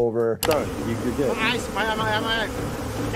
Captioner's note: bees buzzing